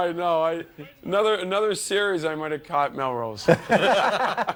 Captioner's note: laughter